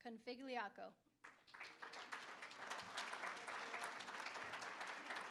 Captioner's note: applause